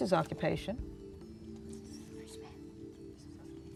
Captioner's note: whispering